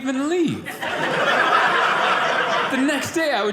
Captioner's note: audience laughing